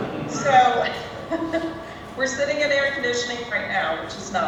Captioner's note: laughs